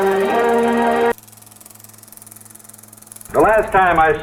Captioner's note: old film reel noise